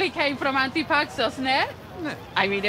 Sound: non-english

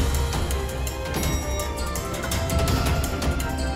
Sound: lift door closes

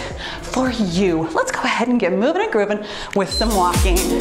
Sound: timer beeps

